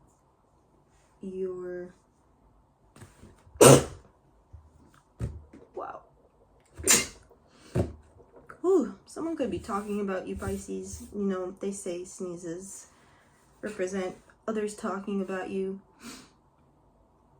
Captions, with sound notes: You’re sneeze *sneeze* Someone could be talking about you, Pisces. You know, they say sneezes represent others talking about you.